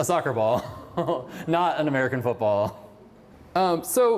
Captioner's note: laughter